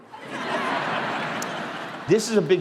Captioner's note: crowd laughing